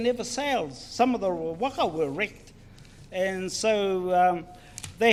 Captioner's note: speaks in foreign language